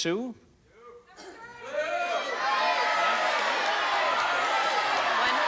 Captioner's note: audience shouting